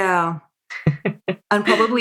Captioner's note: laughs